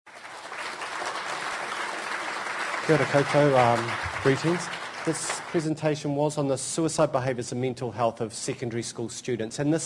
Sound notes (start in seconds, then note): 0.0 audience applause